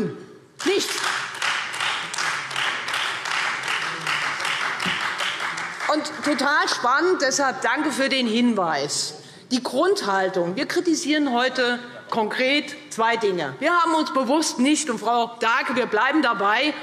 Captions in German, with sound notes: - Es kann nichts. [Beifall Freie Demokraten] Das war total spannend. Ich danke für den Hinweis. Es geht um die Grundhaltung. Wir kritisieren heute konkret zwei Dinge. Frau Dahlke, wir bleiben dabei: